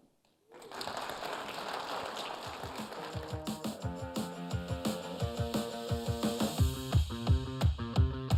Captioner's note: applause